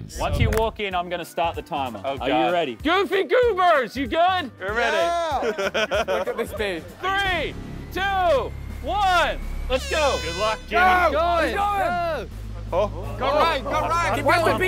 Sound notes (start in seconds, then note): 5.0 contestant laughing; 8.9 horn blowing